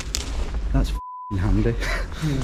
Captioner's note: beep